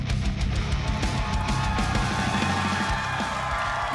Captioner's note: crowd cheering